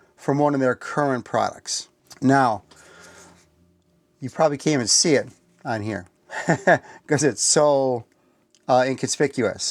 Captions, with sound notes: from one of their current products. Now, you probably can't even see it on here (laughs) because it's so inconspicuous.